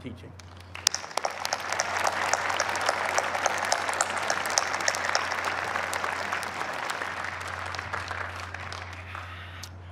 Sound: applause

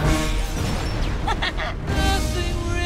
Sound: laugh

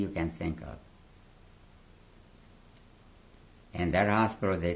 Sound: pauses for 3 seconds

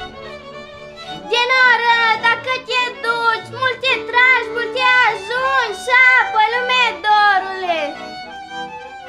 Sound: foreign dialogue

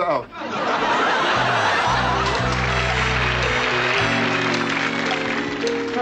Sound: audience laughter and applause

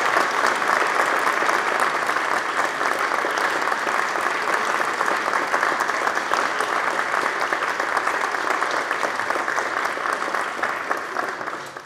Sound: applause

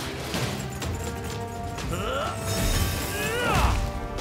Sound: grunting

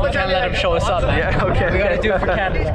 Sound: laughing

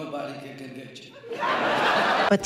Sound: audience Laughter

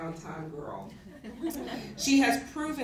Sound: laughter

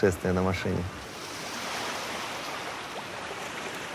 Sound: shore sounds

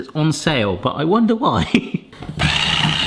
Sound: laughs; motor whines

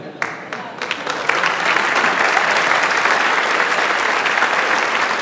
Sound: audience applauds

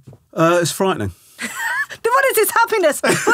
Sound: laughing

